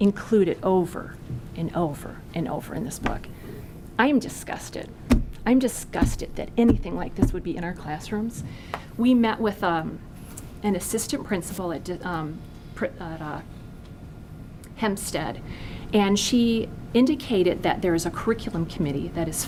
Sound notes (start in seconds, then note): none